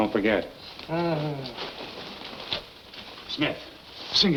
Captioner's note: groaning